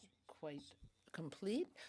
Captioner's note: speaking French